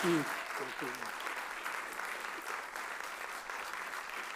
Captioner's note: audience applauds